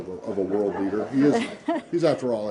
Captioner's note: laughter